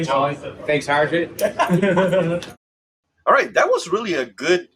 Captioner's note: people laugh